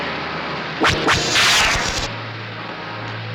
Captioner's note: zapping